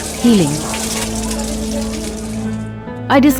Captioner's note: water splattering; soft music